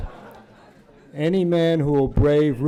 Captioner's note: laughter